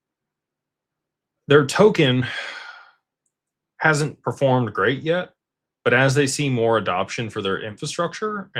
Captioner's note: sighs and gasps